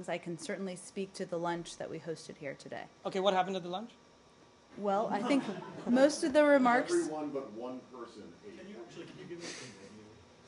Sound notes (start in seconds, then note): 5.1 laughter